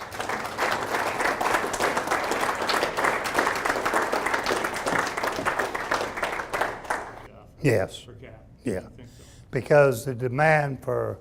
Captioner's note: audience applauding